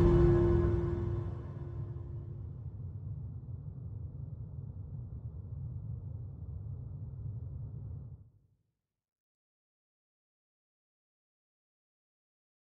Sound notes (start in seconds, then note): 0.0 dramatic music fades; 8.5 silence